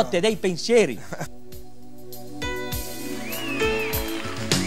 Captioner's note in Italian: Applauso